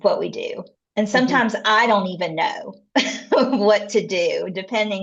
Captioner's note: laughs